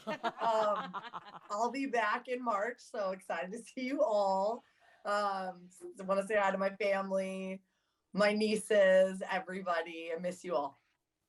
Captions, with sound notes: - Hey guys. (laughing) I'll be back in March. So excited to see you all. I wanna say hi to my family, my nieces, everybody.